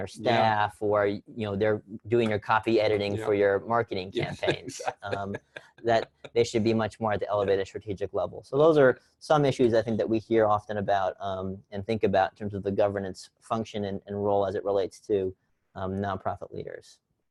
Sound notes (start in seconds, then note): 4.1 laugh